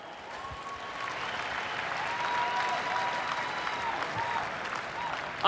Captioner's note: applause, cheers